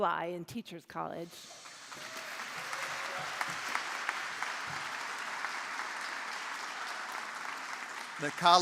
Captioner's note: applause